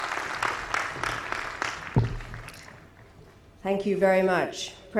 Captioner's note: audience applauding